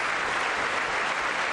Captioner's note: applause